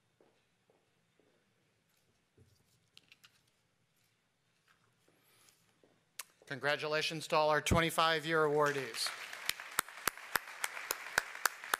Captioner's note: applause